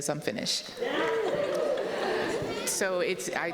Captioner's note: audience exclaiming